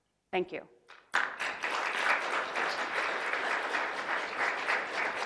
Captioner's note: audience applauds